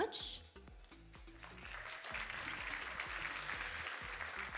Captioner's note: audience applauding